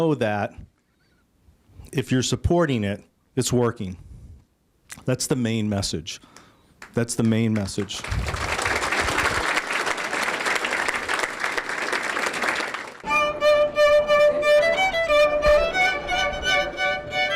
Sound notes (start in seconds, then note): 6.8 applause; 10.5 violin music